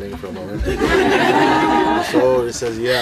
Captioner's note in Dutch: meer gelach